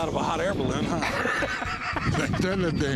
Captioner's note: laughter